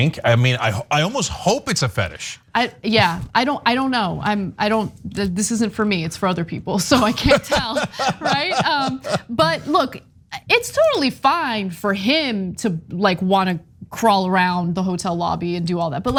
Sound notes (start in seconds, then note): 6.9 laugh